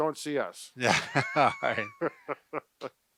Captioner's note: both laugh